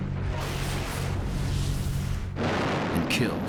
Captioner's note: explosion